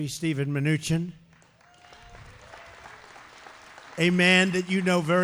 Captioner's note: applause